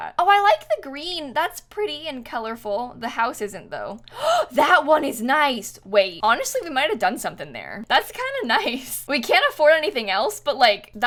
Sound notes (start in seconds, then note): 4.0 gasps